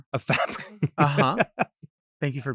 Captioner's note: laughs